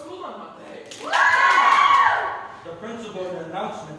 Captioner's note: cheers